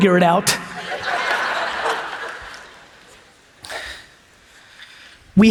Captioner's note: audience laughs